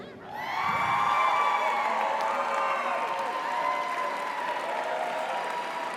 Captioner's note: audience cheers; audience applauds